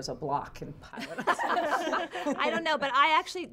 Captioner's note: all laughing